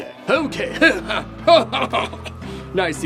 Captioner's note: evil laungh